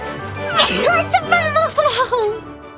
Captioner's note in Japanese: くしゃみ